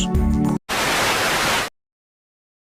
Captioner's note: static